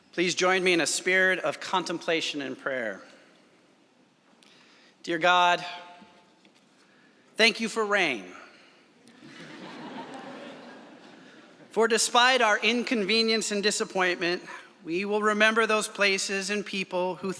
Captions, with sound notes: - Please join me in a spirit of contemplation and prayer. Dear God, thank you for rain. (laughter) For despite our inconvenience and disappointment, we will remember those places and people